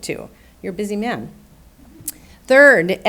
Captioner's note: audience chuckling